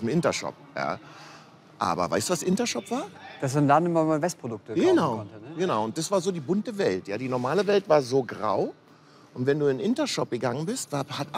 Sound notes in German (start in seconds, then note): none